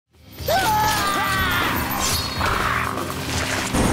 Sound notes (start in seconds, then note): 0.4 screaming